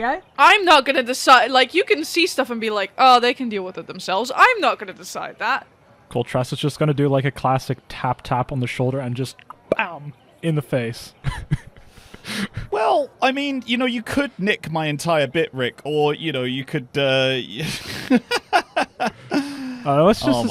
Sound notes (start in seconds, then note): 8.1 tap tap; 10.3 pow!; 11.2 laughs; 17.5 laughs